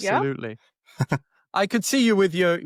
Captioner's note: chuckles